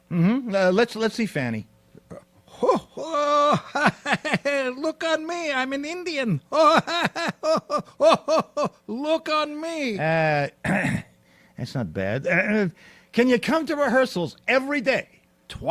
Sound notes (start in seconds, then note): 10.6 clears throat